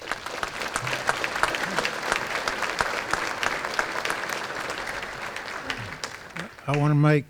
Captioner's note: applause